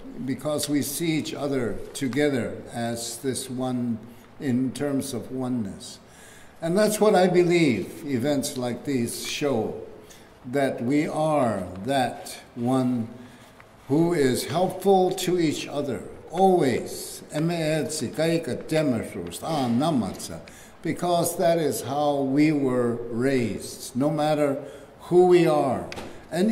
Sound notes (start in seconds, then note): 17.3 speaking keres language